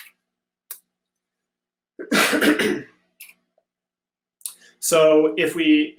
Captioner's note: clears his throat